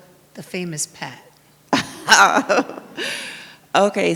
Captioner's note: laughs